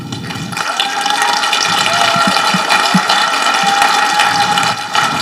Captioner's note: people applauding and cheering